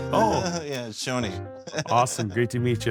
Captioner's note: laughs